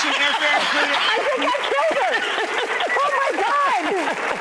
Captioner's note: laughs; audience applauds